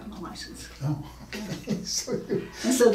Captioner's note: laughing